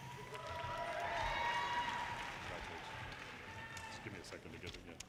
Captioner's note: audience cheers and applause